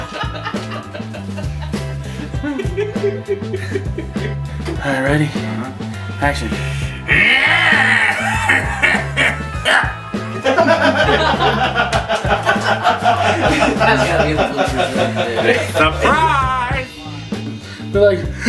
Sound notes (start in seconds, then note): 0.0 Larry laughing; 6.8 Henrietta growling; 10.7 crew laughing